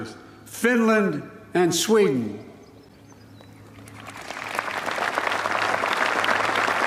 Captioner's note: applause